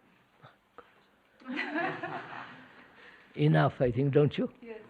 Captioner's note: laughter